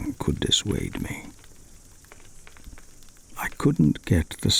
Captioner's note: fire crackling and night insect buzzing